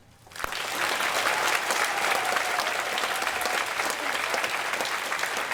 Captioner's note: applause